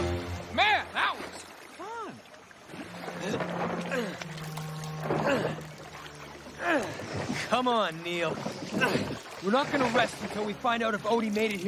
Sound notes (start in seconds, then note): 5.1 grunting